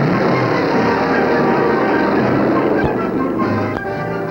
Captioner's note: engines roaring